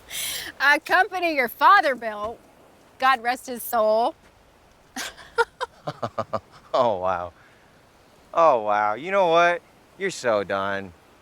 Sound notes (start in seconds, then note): 5.0 both laugh